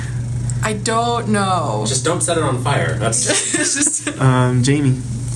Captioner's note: laughs